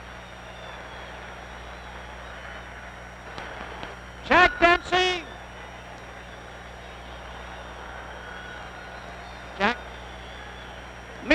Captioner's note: applause